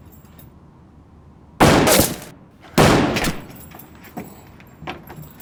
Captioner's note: gunshots